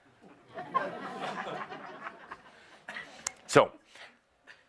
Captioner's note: some laughter